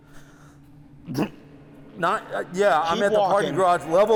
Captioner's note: Aggressor gagging